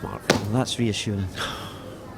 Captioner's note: sighs